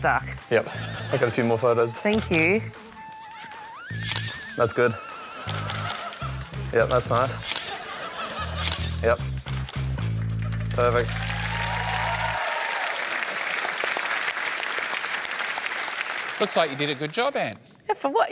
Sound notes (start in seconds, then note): 11.6 applause